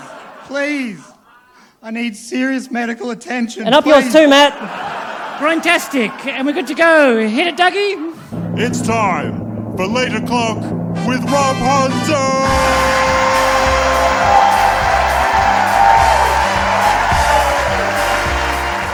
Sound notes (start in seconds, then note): 8.8 drumroll; 12.4 music/applause